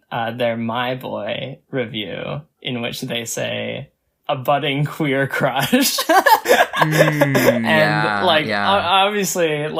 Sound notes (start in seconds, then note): 6.1 laughs